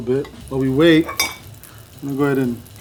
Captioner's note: plate clanking